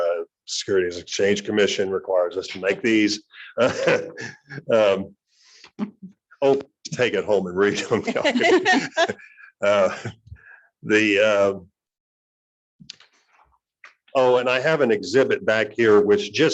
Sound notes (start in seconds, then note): 2.5 chuckles; 7.6 laughing